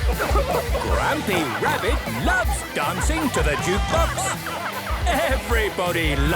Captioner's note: shouting